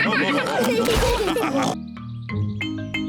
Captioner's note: all laugh